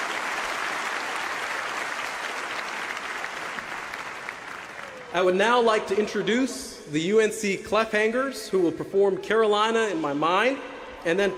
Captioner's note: cheers and applause